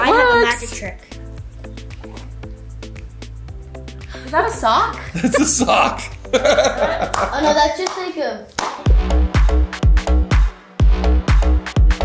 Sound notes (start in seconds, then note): 7.8 laughing; 8.9 deep trance music